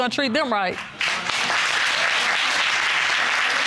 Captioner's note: audience applauds